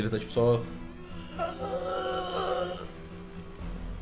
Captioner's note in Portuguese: grunhidos